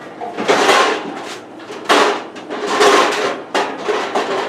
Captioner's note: pans clattering